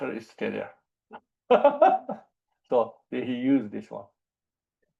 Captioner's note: laughs